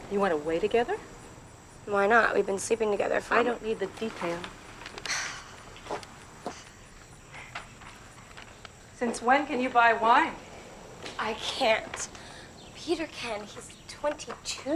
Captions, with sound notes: - You went away together? - Why not? We've been sleeping together for... - I don't need the details. (sighing) Since when can you buy wine? - I can't. Peter can. He's 22.